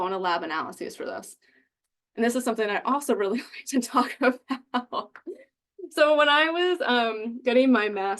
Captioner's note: chuckling